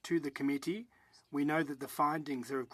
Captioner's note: speaking French